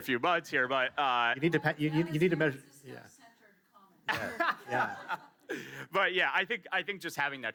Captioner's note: laughs